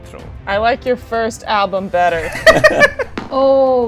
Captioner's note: laughter